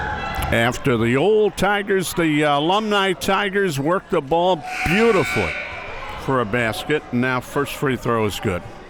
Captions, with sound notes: After the old Tigers the Alumni Tigers work the ball beautifully (buzzer sounding) for a basket, and that first free throw is good.